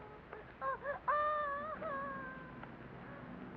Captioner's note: child whimpers